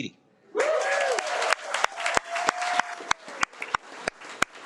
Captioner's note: audience applauding